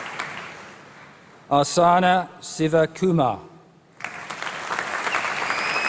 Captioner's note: applause